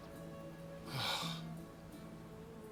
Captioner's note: exhale